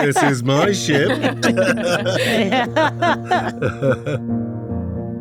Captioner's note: laughing continues; ominous music